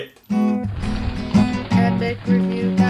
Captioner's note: guitar music; rock crumbling